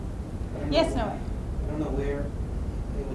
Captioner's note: voiceover